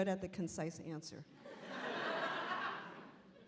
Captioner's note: laughing